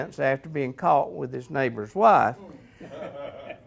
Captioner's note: audience laughs